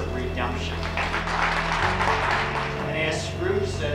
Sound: clapping

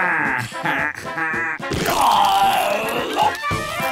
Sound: laughing; groaning; clarinets playing

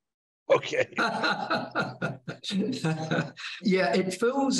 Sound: laughing

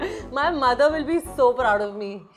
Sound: none

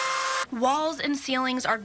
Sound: NATS: drill

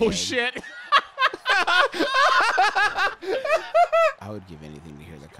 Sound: both laughing

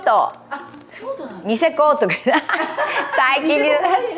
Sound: laughs

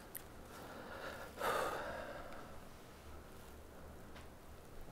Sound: deep exhale

